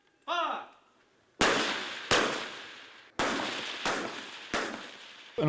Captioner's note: gunshots